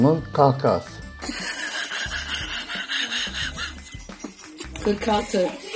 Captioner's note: laughter